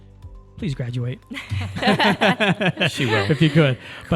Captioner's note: group laughing